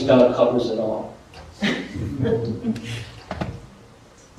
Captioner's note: laughter